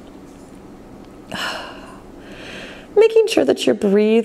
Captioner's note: exhales